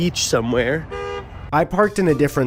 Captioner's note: honk